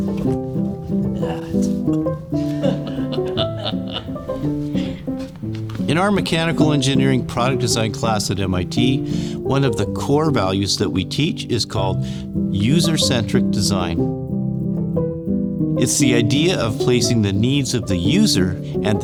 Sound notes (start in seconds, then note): 0.2 tranquil music; 2.4 laughing